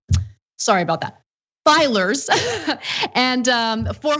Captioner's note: laugh